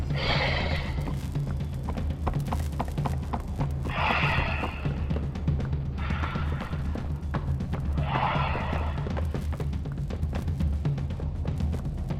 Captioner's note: footsteps